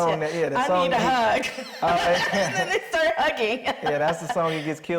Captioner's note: laughs